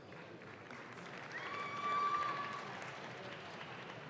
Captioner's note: audience claps